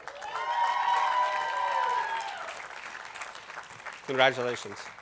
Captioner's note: attendees applauding